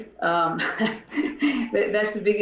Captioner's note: laughs